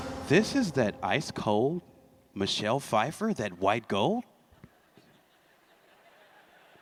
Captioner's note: laughter